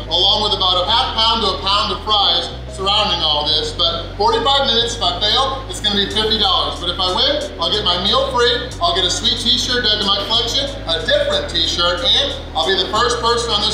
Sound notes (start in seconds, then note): none